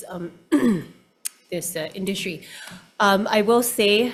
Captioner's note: coughs